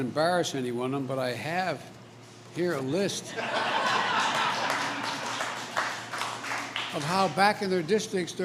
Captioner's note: laughter and applause